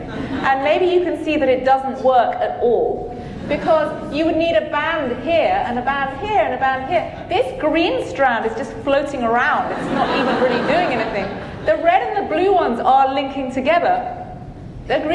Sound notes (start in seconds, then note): 9.5 audience laughing